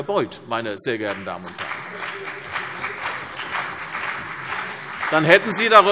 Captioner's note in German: Beifall CDU und BÜNDNIS 90/DIE GRÜNEN - Zurufe SPD